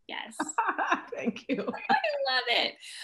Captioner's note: laughing